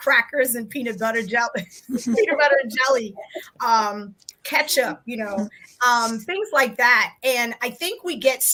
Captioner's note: laughs